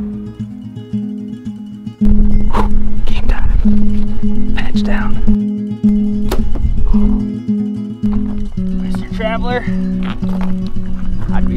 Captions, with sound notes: (soft acoustic guitar music) Whew, game time. Patch down. (bow twangs) Mr. Traveler, I'd be scared.